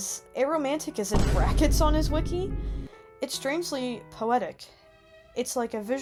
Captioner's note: boom